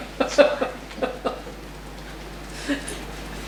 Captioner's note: laughs